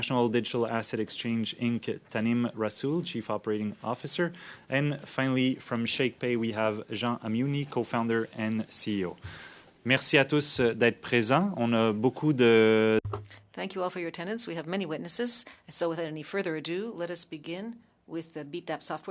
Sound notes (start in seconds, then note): 14.2 speaking French